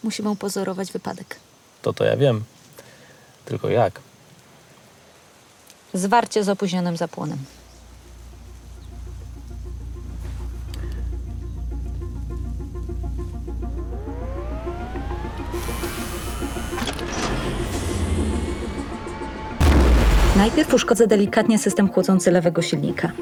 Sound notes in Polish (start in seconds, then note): 16.0 Dźwięk startującego statku kosmicznego; 19.6 Dźwięk przebicia bariery dźwięku